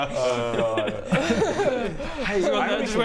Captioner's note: nervous laughter